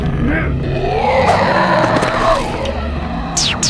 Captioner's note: growling